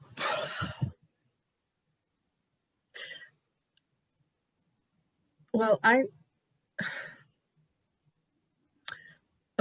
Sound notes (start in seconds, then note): 6.5 exhale